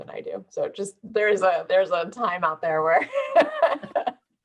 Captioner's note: laugh